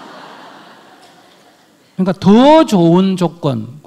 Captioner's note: audience laughs